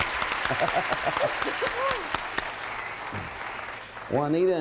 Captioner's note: laughs